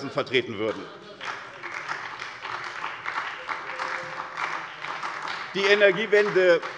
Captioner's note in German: Beifall bei der SPD und bei Abgeordneten der LINKEN